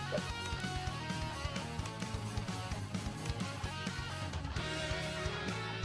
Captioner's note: mouse clicking